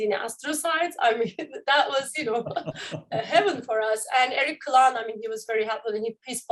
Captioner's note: laughter